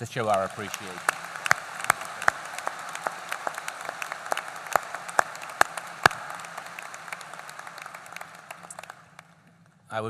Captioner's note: applause